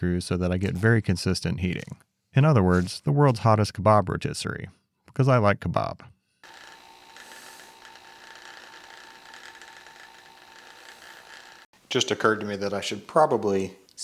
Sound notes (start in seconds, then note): 6.4 machine motor hums